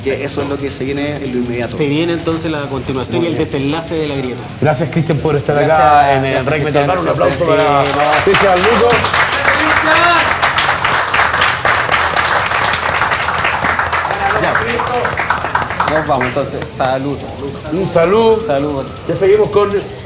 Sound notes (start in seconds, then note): 8.8 applause and cheers